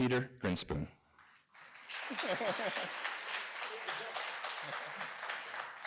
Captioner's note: applause